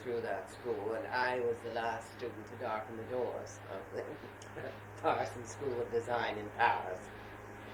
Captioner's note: laughs